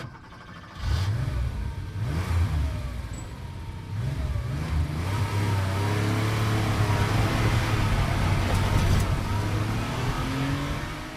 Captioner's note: sound of car revving up and speeding away